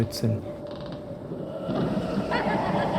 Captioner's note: wind rustling; eerie laughter